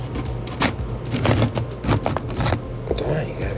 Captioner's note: beans crunch